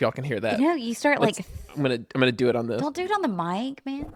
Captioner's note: scratches